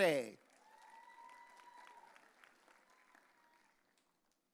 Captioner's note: audience cheering